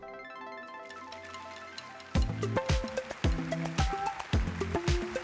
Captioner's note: applause